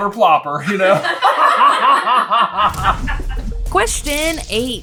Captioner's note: uproarious team laughter